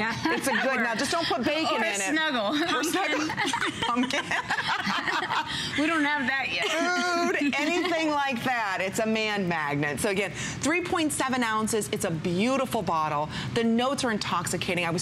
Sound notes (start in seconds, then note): 8.0 laughter